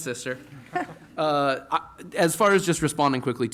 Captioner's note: laughter